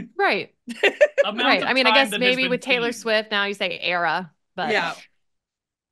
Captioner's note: laughs